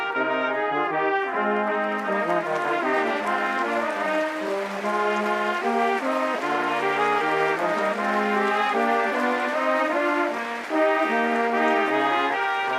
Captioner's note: applause